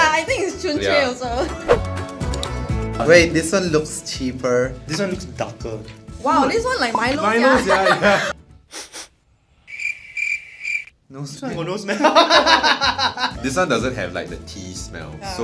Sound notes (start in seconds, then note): 8.7 sniff sniff